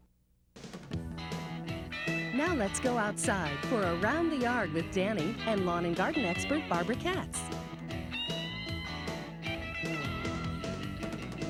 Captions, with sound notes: (bright upbeat music) - [Voiceover] Now let's go outside for "Around the Yard" with Danny lawn and garden expert, Barbara Curtis. (bright upbeat music)